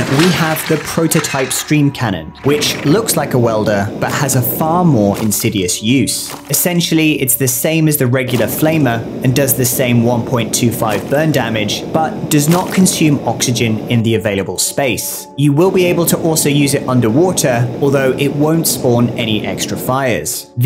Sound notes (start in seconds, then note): 8.1 fire roars